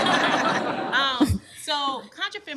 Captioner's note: laughter